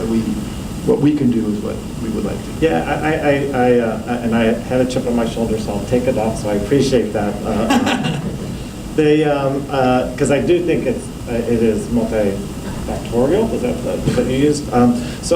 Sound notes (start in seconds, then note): 7.5 laughter